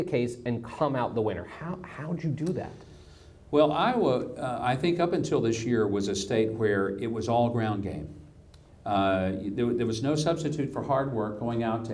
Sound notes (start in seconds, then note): none